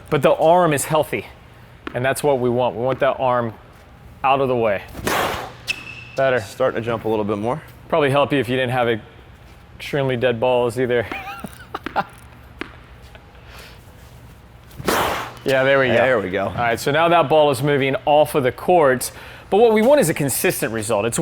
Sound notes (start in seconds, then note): 5.0 racket hitting the ball; 11.0 laughs; 14.8 racket hitting the ball